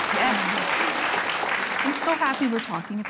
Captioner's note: applause